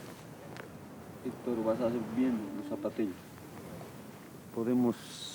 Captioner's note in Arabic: الصوت المنطوق باللغة الكيتشوا